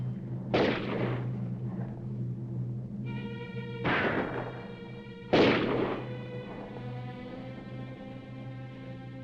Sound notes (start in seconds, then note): 0.1 dramatic music; 3.2 guns firing; 6.3 dramatic music